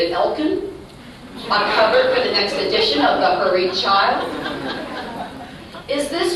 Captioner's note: laughter